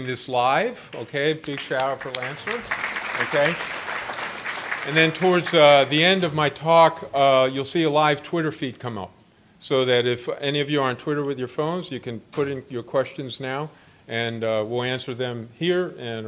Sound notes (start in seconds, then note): 1.4 applause